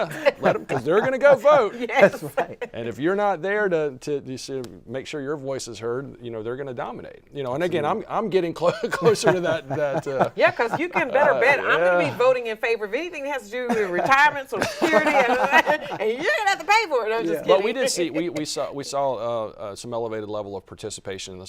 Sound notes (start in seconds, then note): 15.3 vocalizes